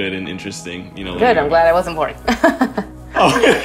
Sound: mellow music; laughing; laughs

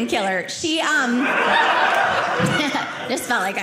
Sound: audience laughing

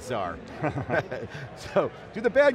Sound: chuckles

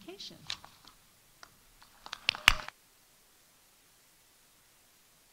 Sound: audience applauding

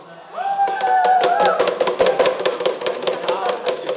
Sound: cheering

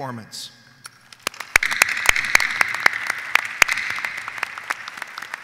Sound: audience applauding

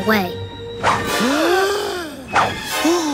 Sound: gasping

